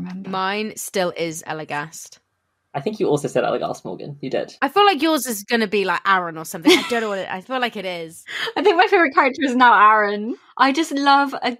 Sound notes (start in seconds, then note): 6.7 laughs